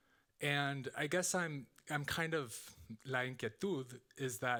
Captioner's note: speaking Spanish